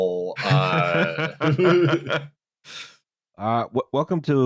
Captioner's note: laughter